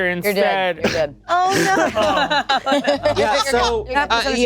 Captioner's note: group laughing